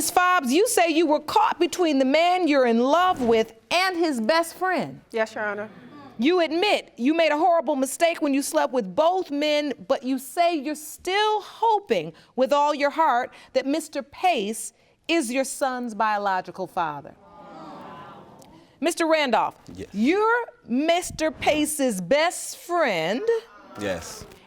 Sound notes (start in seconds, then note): 17.3 audience murmuring